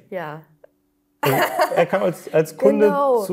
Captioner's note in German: Lachen